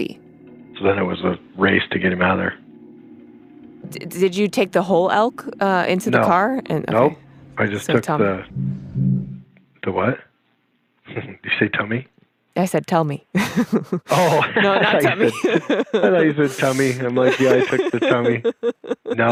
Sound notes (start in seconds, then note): 13.3 both laugh; 13.4 laughs